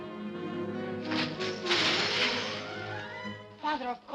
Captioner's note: suspenseful music; coins jingling under feet